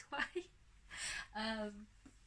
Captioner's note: laughs